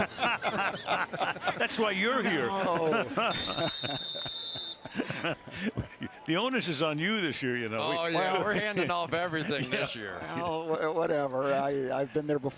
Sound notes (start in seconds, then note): 0.0 laughter; 3.2 whistle